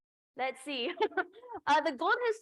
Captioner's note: laughter